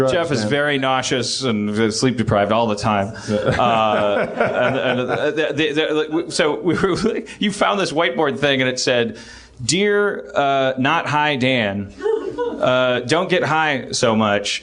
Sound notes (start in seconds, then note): 3.9 stammers